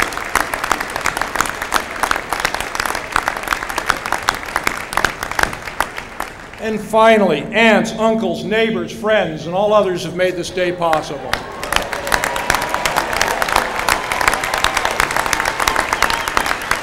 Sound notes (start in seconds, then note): 11.2 applause